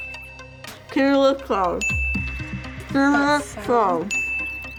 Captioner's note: bell dings; bell dings